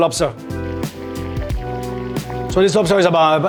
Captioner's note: water bubbling